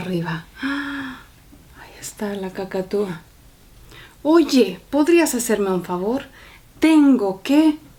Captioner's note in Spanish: suspiro